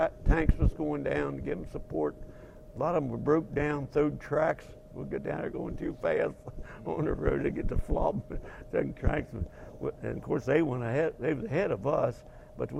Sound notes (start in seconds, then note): 6.4 laughing; 8.4 laugh